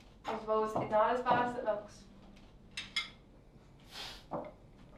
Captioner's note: none